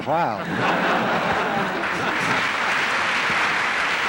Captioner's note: applause